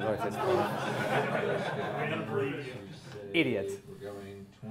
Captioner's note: class laughing